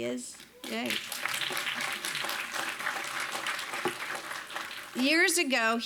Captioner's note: audience applauding